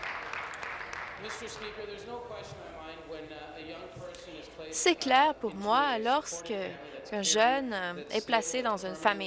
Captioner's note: applause